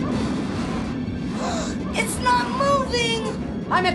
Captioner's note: gasps